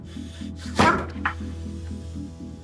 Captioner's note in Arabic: آهات